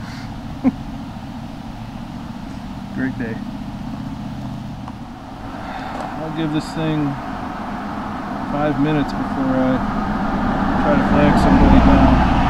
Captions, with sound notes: [Chuckle] Great day! I'll give this thing five minutes before I try to flag somebody down...